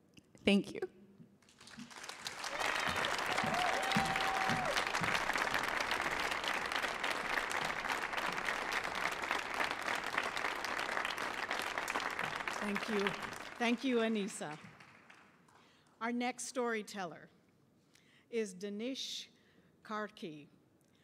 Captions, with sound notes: Thank you. (audience cheering and applauding) - Thank you. Thank you, Anisa. Our next storyteller is Danish Karki.